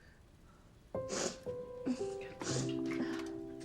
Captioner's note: sniffling; melancholy piano music playing